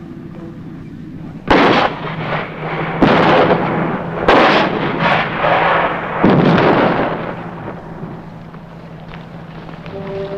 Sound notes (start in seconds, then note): 7.0 banging